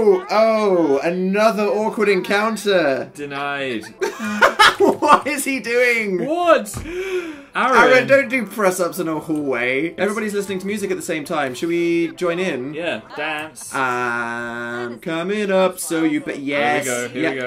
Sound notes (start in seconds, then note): 3.8 laughing; 14.0 singing